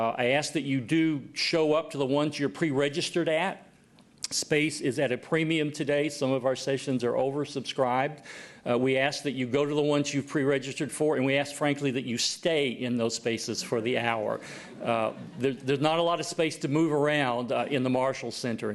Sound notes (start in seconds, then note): 14.4 laughter